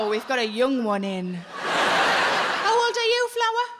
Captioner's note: audience laughing